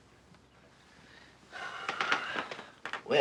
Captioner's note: sighing